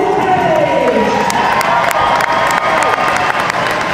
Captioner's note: crowd cheers